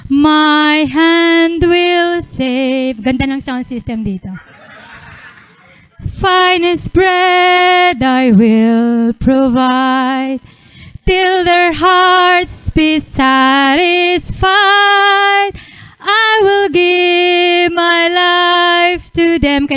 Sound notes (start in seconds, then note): 4.3 audience laughing